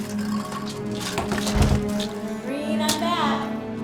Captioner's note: bangs